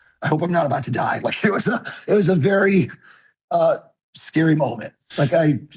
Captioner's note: chuckles